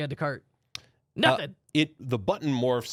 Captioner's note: loudly clicks